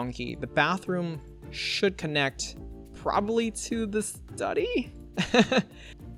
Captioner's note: laughs